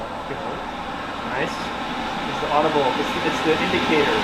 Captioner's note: machine noise starting